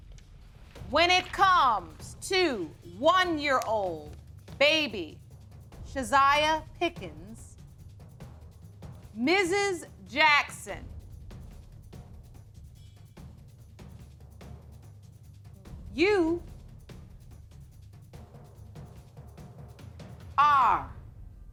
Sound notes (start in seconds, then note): none